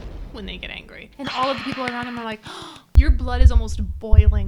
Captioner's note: gasps